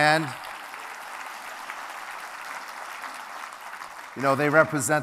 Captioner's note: crowd clapping